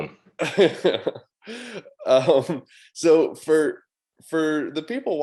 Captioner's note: chuckles